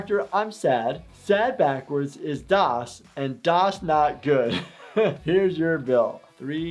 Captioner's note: laughing